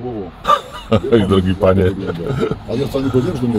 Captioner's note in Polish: śmiech